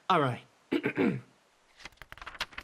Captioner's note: clears Throat